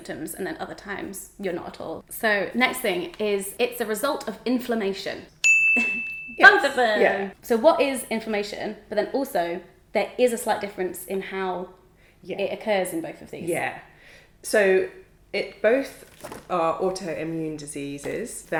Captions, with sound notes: and then other times you're not at all. So next thing is, it's the result of inflammation. (bell dings) (chuckles) Both of them. - Yes, yeah. - So what is inflammation, but then also there is a slight difference in how it occurs in both of these. - Yeah. So both are autoimmune diseases